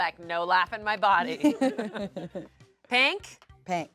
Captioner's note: everyone laughs